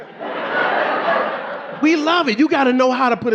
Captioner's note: audience laughing